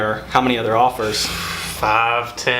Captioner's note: inhales sharply